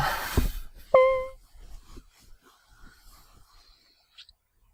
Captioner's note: beeping sound